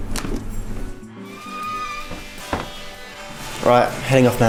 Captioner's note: kitchen door opening